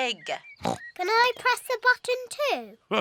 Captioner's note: oinks; laughs